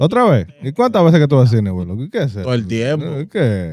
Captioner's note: speaking In Foreign Language